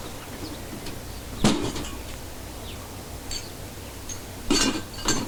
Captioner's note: tools clanking